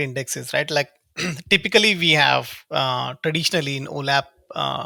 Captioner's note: clears throat